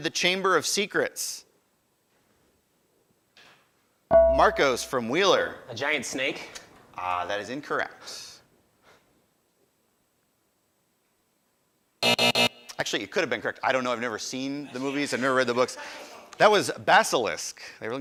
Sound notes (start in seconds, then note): 4.1 ding; 12.0 buzzer